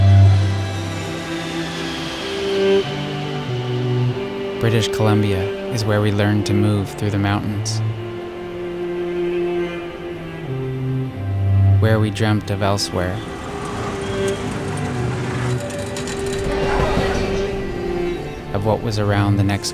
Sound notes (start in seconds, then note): 13.7 traffic din